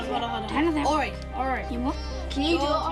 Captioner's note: kids chatter